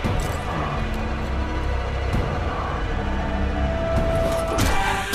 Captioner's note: intense eerie music; monster rasping softly; blow thudding; sudden ominous music